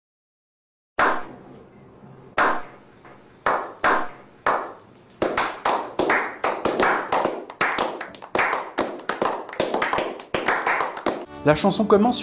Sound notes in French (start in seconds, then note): 0.6 Applaudissements lents et appuyés